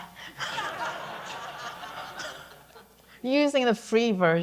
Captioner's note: audience laughing